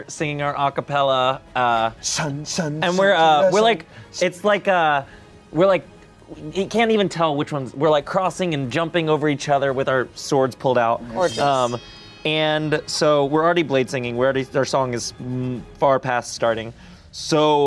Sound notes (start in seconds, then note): 2.3 vocalizes